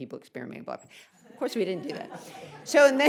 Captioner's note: audience laughs; laughs